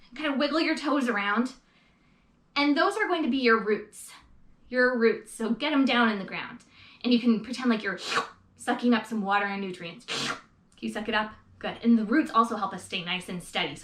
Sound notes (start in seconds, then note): 8.0 slurps; 10.1 slurps